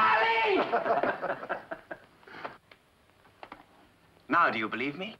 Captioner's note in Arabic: مجموعة تضحك